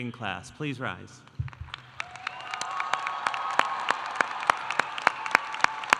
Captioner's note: audience applauding